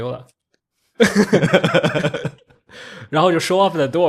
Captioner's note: laughs